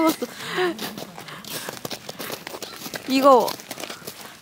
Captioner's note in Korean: 눈 밟는 소리 asmr